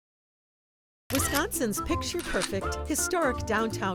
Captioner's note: camera clicking